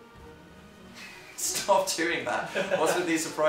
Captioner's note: chuckles